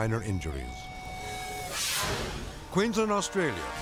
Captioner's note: video swooshing